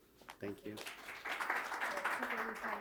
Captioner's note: audience applause